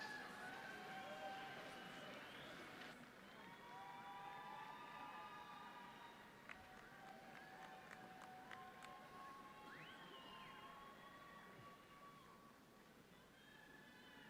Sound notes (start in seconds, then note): 4.4 audience cheering